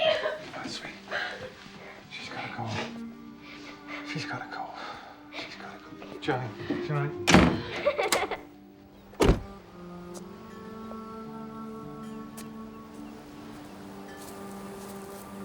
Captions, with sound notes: Come on, sweetie. (SOBBING) She's got to go. She's got to go. She's got to go. Johnny? Johnny. (CRYING)